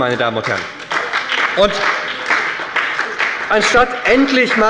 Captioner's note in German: Beifall bei der SPD - Zurufe von der CDU